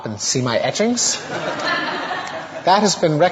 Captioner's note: audience laughter